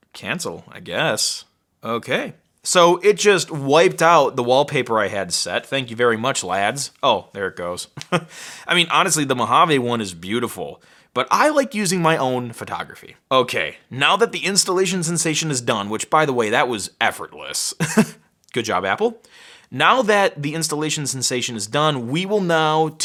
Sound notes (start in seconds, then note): 8.1 laughs; 17.8 chuckles